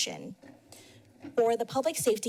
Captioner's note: pause